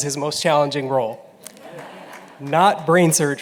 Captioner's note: laughter